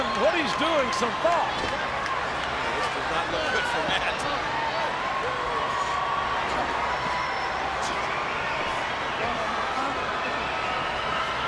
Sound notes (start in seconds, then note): 6.7 chuckling